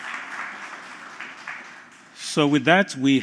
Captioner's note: applause